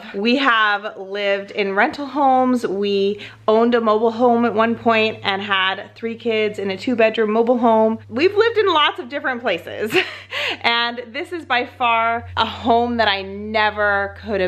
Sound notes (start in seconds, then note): 10.2 laughs